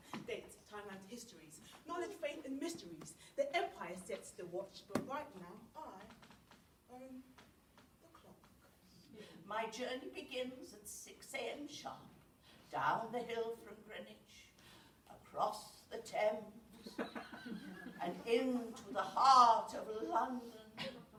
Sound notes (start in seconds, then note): 16.9 audience laughter